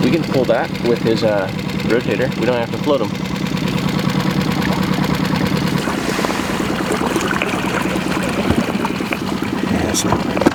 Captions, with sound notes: We can pull that with his rotator. We don't have to float him. (boat puttering)